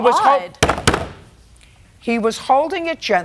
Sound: raps gavel

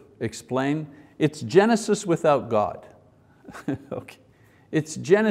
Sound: chuckles

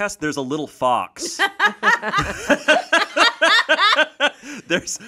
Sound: everyone laughs

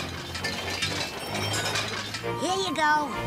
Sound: objects clanking and rattling

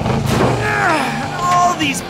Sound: grunting

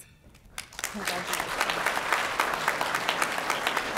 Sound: applause

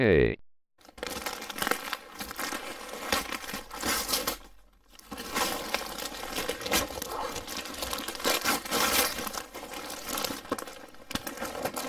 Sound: gift unwraps

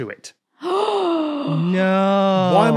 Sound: gasps

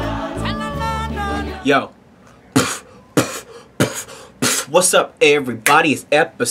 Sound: beatboxing

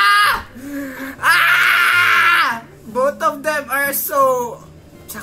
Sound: gay bitter jealous noises

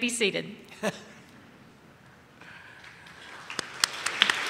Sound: laughs; audience claps

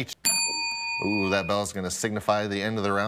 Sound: bell dings

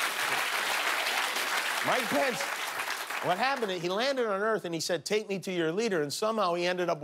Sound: cheers and applause

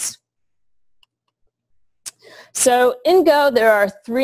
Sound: pause

